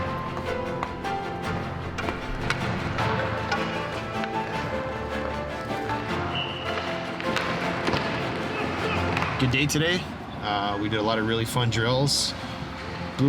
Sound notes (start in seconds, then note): 6.2 whistle blows; 7.7 intense music